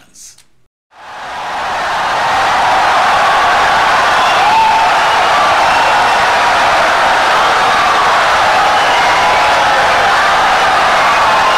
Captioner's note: wild applause and cheering for 17 seconds